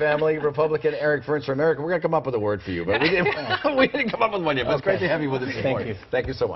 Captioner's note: laughter